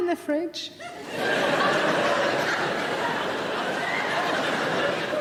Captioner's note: audience laughing